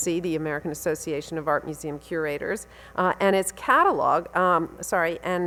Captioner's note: none